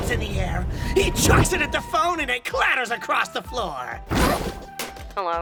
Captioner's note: he chucks it at the phone and it CLATTERS across the floor!